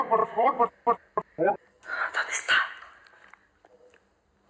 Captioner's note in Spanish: voz distorsionada